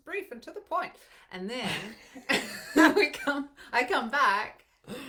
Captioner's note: laughs